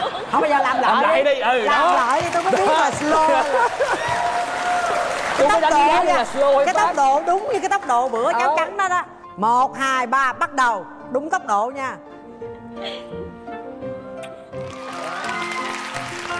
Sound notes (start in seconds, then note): 0.0 laughs; 3.4 applause